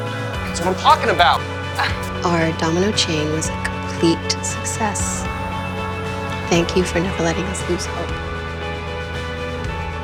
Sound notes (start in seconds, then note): 1.8 Helen laughs; 2.2 voiceover